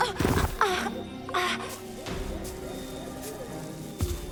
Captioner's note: Mischa breaths heavily